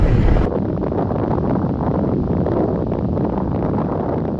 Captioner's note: explosion roars